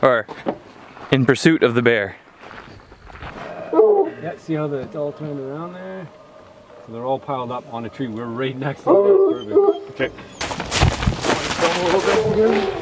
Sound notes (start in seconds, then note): 9.5 dogs howling; 10.2 leaves rustling